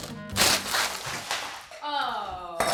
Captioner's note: bag crinkles